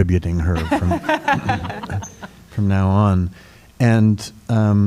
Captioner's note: laughter